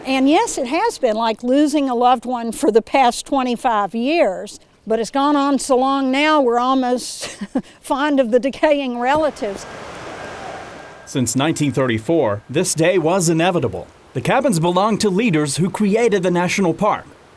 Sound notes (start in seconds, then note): 9.0 distant construction noise